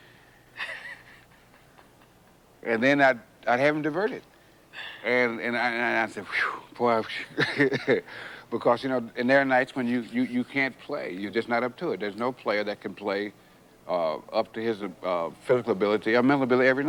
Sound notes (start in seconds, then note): 0.5 chuckles; 7.1 chuckles